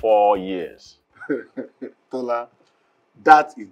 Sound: laughter

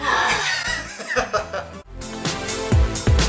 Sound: laughter

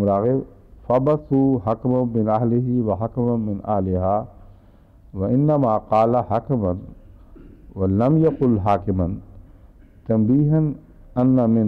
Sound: Arabic

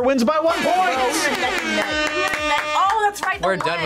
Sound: air horn blares

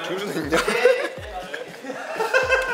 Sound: giggle♥

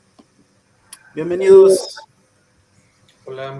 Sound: speaking in foreign language

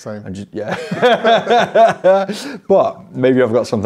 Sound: laughs

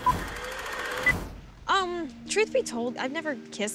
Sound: film clicking

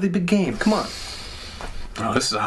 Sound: sniffs again

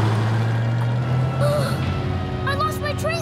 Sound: gasping

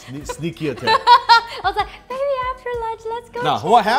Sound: laughs

